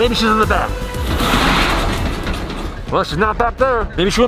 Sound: trunk door sliding open

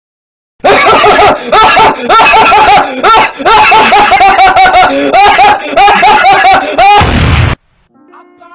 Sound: laughing

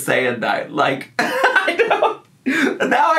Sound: laughs

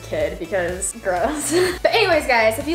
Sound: chuckles

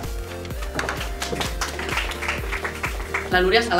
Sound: applause

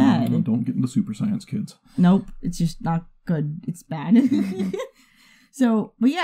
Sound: laughs

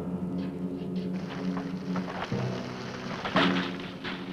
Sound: dirt pattering

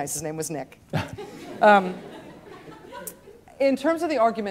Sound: students laughing

